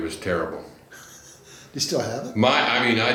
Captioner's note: laughs